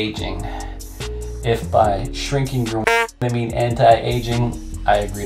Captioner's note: honk